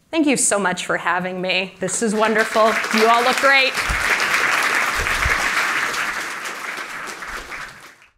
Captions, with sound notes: Thank you so much for having me. This is wonderful. You all look great. [APPLAUSE]